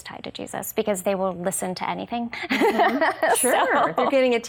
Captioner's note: laughs